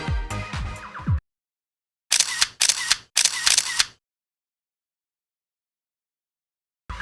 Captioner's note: camera sound